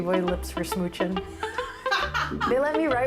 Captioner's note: laughs